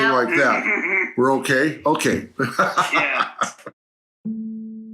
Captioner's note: via phone